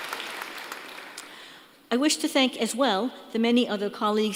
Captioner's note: applause